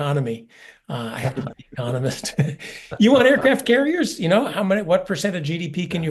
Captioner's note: laugh